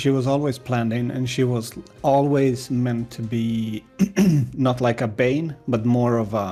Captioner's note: clears throat